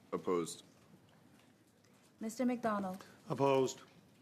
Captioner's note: speaking French